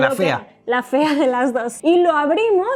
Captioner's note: laughs